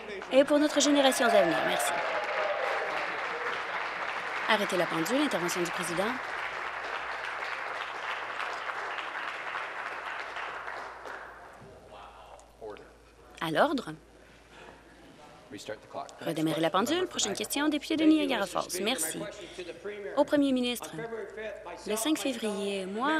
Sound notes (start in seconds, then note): 6.2 applause